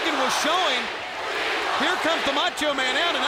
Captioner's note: crowd chanting